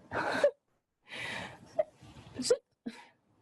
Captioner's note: laughs